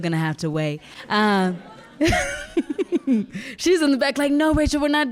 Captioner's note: laughing